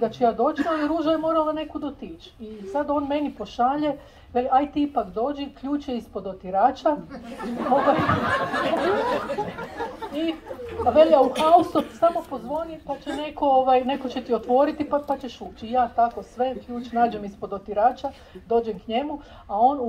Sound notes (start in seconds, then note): 7.1 laughter